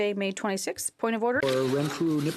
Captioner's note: speaking in French